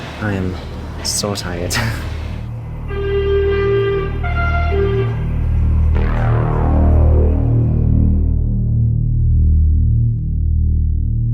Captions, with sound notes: I am, so tired. (blaring train horn) (synth chord)